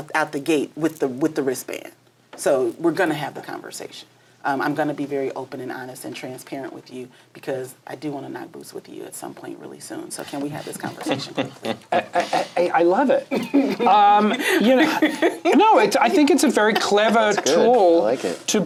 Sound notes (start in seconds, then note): 10.6 laughs